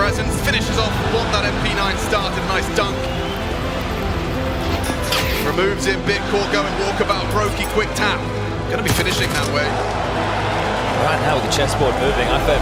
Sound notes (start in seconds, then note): 0.0 explosion booming; 9.0 crowd cheering; 9.5 gun firing